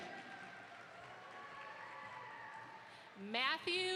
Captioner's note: audience applauds